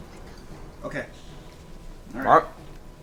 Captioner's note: whispers